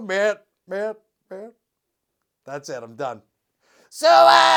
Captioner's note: speaks; sings